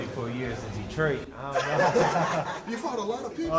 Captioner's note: laughter